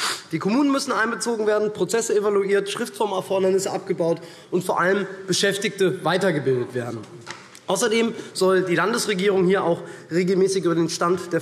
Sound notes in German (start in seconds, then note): none